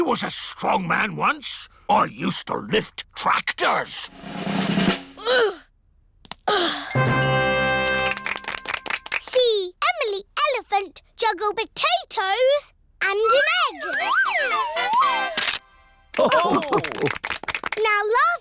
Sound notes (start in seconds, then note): 4.0 drum roll; 4.9 groans; 16.1 all laugh